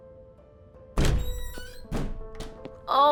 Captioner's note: door opens